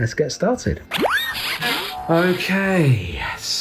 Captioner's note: object boings